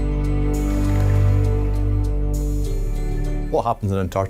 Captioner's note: water splashing